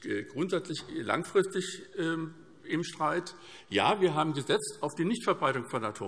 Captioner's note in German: none